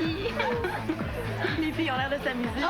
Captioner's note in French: Rire